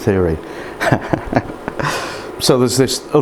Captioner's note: laughs